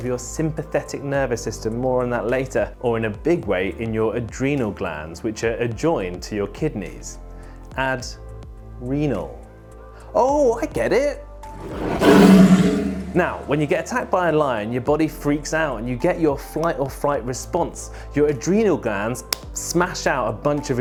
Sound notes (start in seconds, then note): 11.5 roar